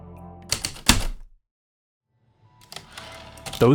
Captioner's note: typewriter clicks and slide